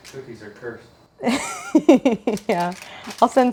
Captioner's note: laughs